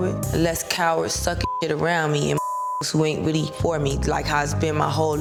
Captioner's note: beep